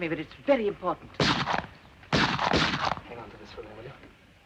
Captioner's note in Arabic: طلقات نارية